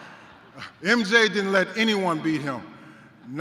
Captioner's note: laugher